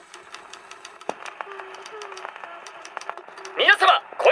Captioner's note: humming